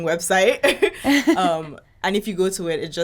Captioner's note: laughing